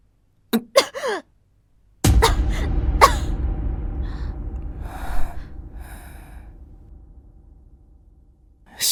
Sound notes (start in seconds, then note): 0.5 coughs; 3.0 coughs